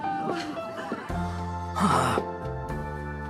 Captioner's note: sighs